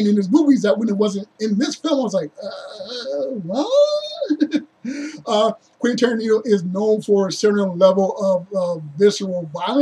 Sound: confused grunt

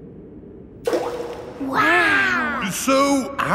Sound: rock plops

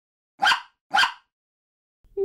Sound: bark! Bark!

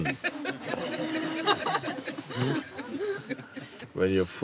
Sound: laughter

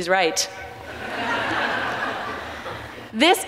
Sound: audience laughs

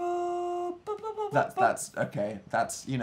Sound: continues slightly flat humming

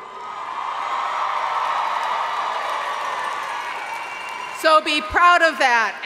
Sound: audience cheering and applauding

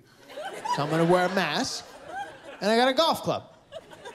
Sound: laughter

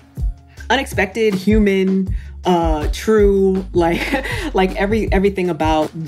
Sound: laughs

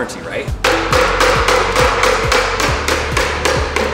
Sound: hammering

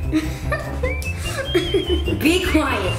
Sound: laughing

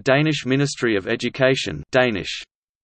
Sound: Danish

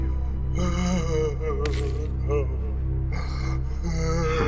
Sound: crying

